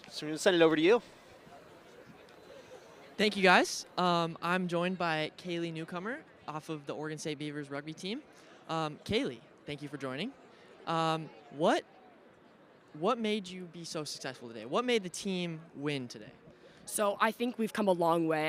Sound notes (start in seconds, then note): none